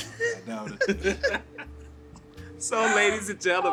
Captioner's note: all laugh; laughs